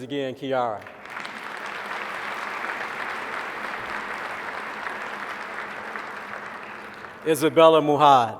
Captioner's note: applause